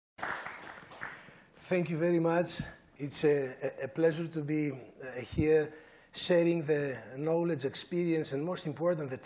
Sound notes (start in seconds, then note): 0.1 applause